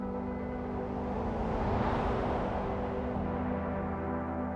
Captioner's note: wind whooshes; gentle music continues